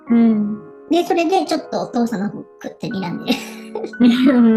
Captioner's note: laughs